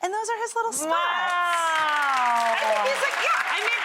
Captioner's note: audience clapping